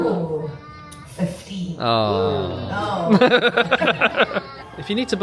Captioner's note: guests groan; laughs